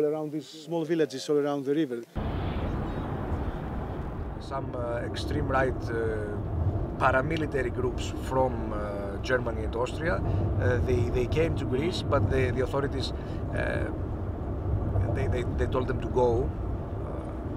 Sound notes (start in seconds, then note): 2.1 wind whooshing